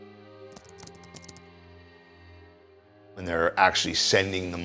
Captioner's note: keys click